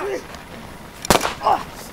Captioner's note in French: coup de feu